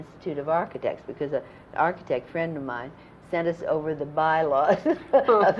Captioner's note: laughter